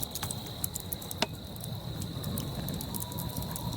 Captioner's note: crackling fire with crickets